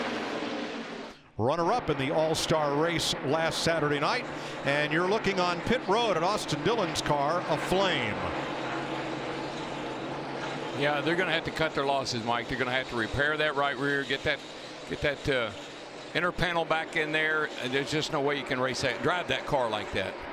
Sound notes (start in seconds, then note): none